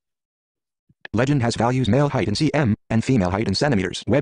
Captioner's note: voiceover